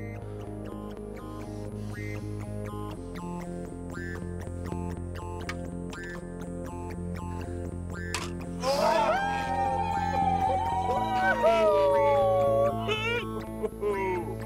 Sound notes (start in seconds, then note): 0.1 techno music; 8.6 aliens cheering; 11.7 techno music